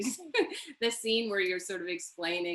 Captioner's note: chuckles